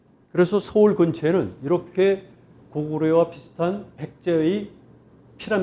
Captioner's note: speaking in Korean